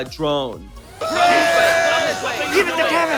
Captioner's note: shouting